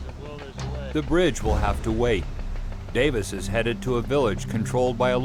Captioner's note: voiceover